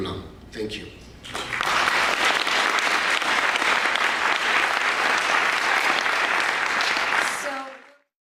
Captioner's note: applause